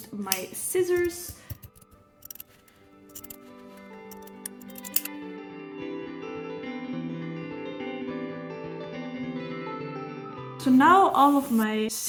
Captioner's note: scissors cutting